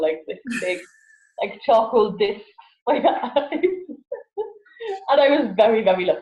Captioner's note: laughs